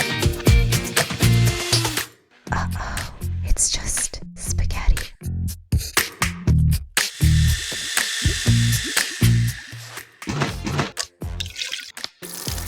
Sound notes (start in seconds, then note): 7.0 blender whirring